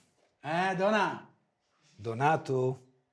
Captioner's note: speaking foreign language